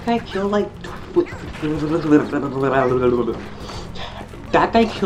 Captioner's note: sounds of insanity